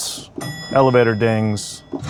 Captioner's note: bell dings